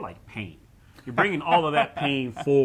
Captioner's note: laughing